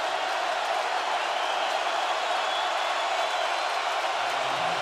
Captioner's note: crowd roaring